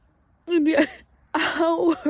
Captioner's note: cries softly